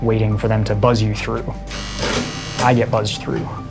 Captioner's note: buzzing